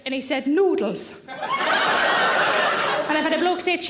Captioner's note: audience laughing